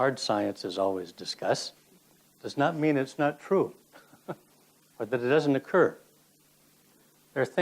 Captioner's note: laughs